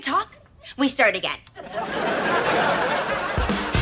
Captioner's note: audience laughter; upbeat music